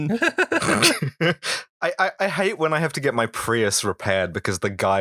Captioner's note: laughter